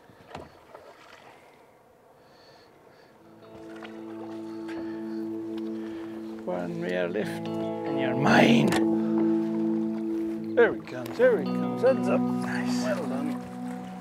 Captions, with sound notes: Boy, they've just been in great shape these fish. Off you go. (splash) (atmospheric guitar music)